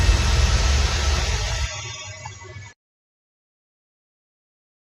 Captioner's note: audio hiss dwindles to silence